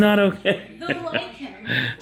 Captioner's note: chuckles